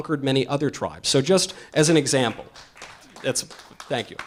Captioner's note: audience applause